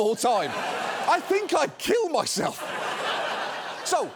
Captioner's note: studio audience laughing